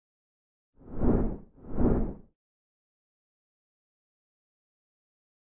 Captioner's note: wind whooshing